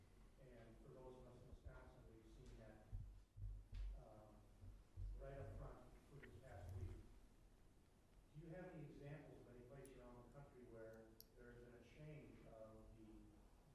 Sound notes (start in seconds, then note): 6.5 speaks faintly